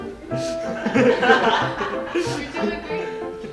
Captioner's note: laughing